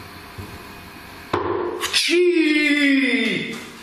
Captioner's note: bang